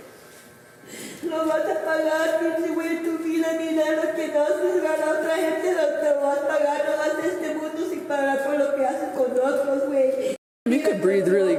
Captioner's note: speaking in foreign language